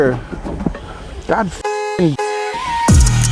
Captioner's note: hip-hop music; honk; welder crackling